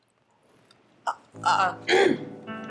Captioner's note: clears throat